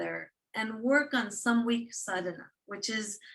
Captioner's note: non-english speech